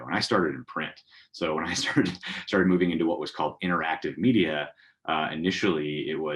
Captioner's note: laugh